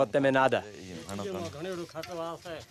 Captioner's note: speaking foreign language